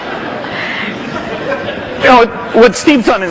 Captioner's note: laughter